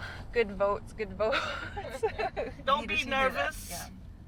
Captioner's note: chuckling nervously